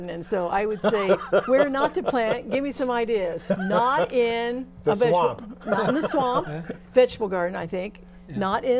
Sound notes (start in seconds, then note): 2.4 laughing